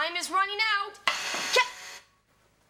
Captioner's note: buzzer sounds